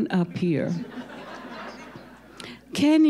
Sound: audience laughing

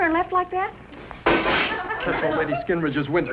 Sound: glass shatters

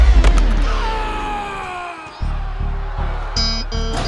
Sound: moaning

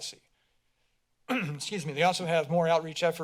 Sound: clears throat

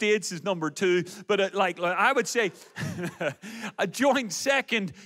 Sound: laughs

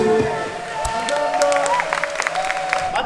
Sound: applause

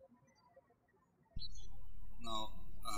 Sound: birds chirping

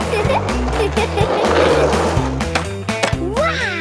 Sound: giggles

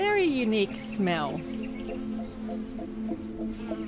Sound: flies buzz

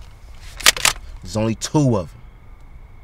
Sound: gun cocks

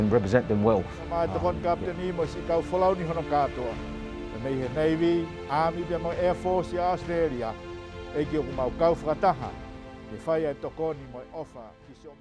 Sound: tongan language and music

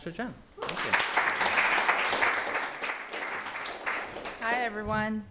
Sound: applause

